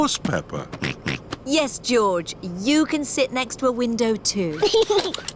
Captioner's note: snorts; giggles